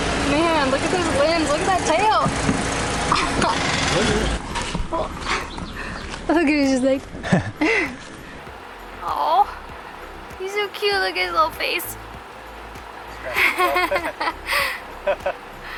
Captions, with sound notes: Man, look at those limbs. Look at that tail. Look, he's just like (imitating the monkey) Awe! He's so cute, look at his little face! Scratching himself. [Laughter]